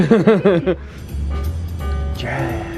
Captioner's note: laughing; jazz music playing